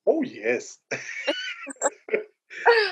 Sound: laughter

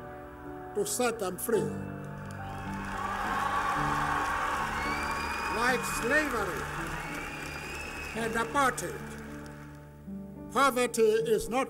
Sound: applause

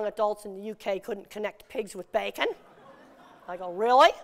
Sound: laughter

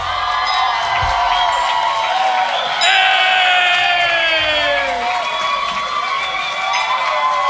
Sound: cheering

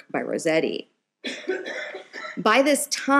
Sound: audience member coughing

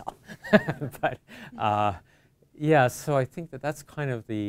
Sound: chuckles

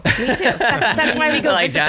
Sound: laughs

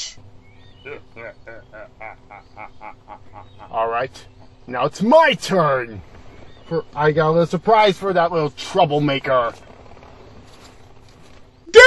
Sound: hears the Skeleton Soldier laughing

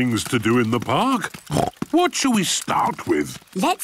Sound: snorts

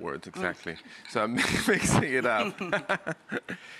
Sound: laughs

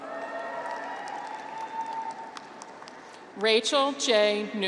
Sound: graduates cheer

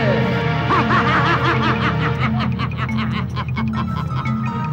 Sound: laughs

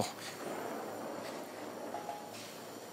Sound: soft hiss

